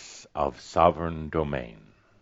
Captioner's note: none